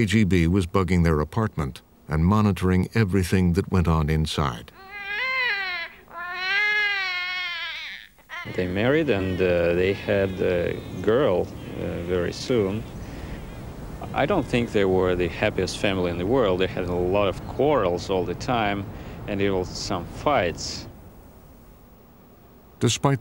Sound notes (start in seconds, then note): 4.7 baby crying